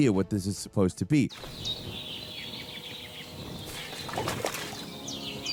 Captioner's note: birds chirping